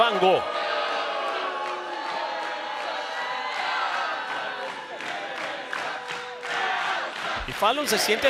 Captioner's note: applause